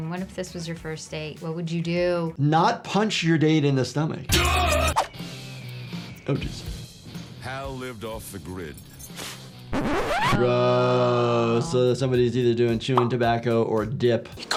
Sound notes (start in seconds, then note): 4.5 man shouting; 9.7 disc scratching